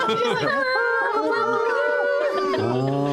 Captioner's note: laughter; kazoo; deep and cool horn